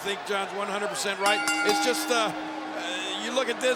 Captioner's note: bell ringing